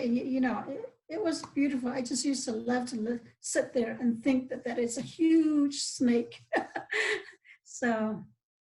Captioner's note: laughs